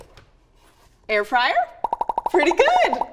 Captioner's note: boxes popping